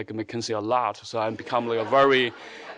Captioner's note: audience laughing